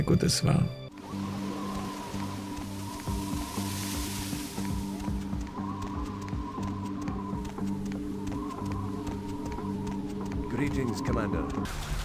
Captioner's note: sounds of the environment: wind, footsteps, rain